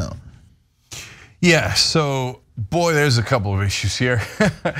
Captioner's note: laugh